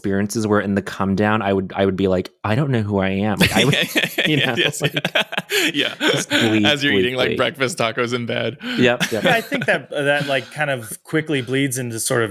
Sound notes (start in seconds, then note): 3.4 charles laughs